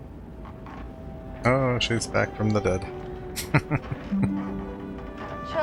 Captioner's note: chuckling